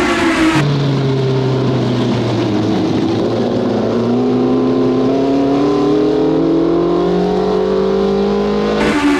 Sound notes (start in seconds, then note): 1.6 car engine revving